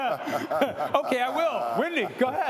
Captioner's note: laughter